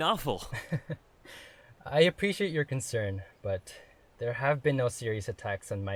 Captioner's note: chuckles